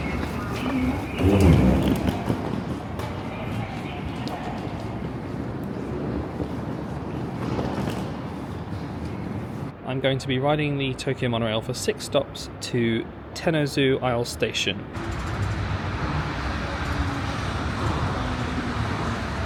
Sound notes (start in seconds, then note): 1.6 suitcase rumbling